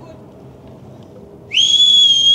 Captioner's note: whistling